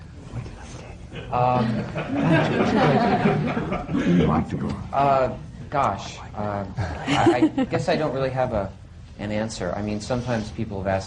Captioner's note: laughter